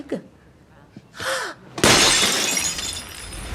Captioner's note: gasps